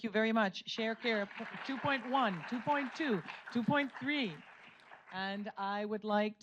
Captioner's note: audience applauds